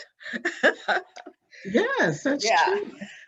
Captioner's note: laughs